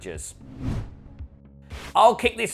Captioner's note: screen wipe whooshes